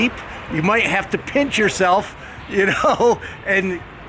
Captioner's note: chuckling